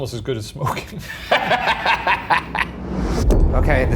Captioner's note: laughs